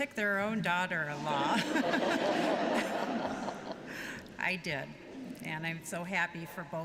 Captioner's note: laughter